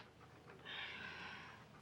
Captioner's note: sighs